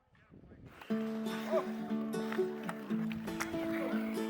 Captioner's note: chuckles; gentle music